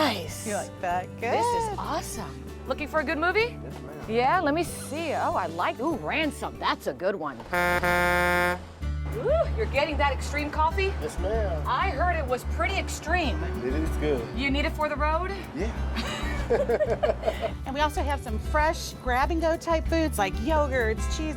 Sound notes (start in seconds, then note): 7.4 horn honking